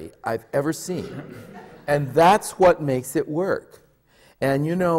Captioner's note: laughter